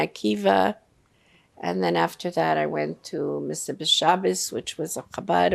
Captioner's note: yiddish